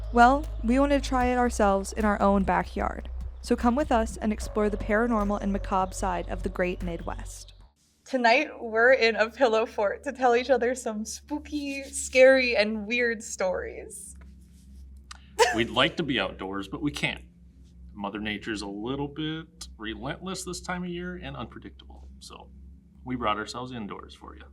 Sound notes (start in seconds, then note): 15.4 laughs